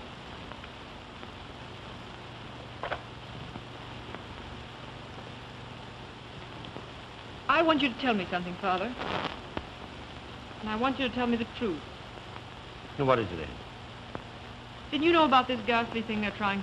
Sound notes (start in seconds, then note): none